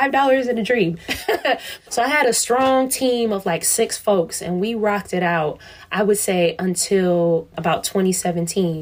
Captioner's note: laughs